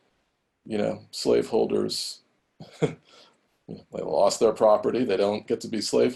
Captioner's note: laughs